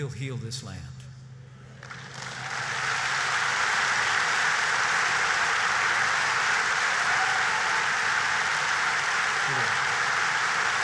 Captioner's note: applause